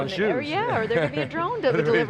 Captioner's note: laughs